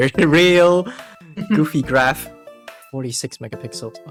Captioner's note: chuckles